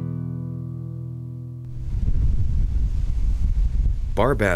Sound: wind gusting

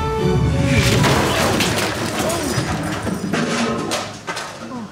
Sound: crash

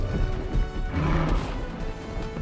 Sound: growls

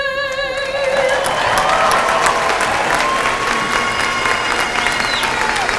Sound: applause; bagpipe music

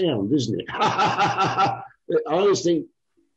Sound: laughs HaHaHaHaHa

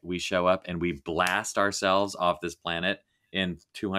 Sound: fingers snapping

